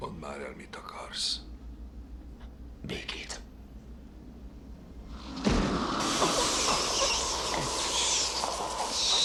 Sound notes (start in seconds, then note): 5.2 electricity crackling; 6.0 loud squealing